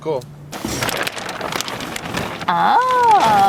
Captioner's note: plastic crackling